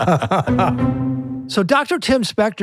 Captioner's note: laughing